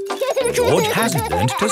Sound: george laughing

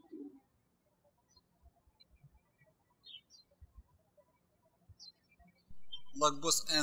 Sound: birds chirping

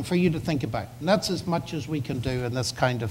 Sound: none

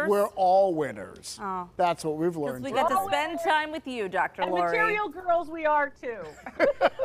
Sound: laughter

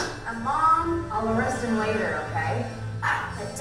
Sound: voiceover

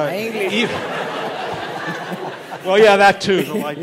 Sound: laughter

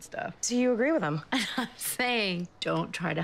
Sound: chuckles

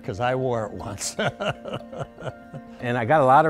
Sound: chuckles

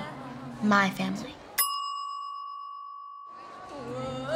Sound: bell dings

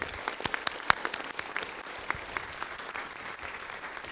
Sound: applause

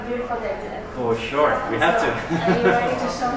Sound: laugh

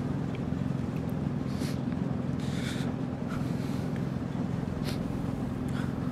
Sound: quietly weeping

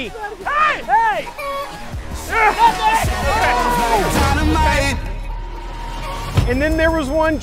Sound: clucking

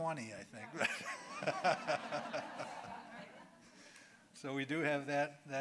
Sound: audience laughing

